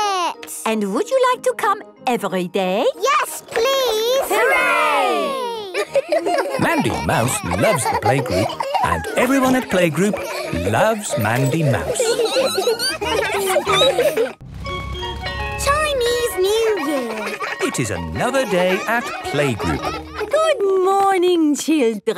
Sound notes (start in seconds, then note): 12.1 laughter; 12.1 squeaking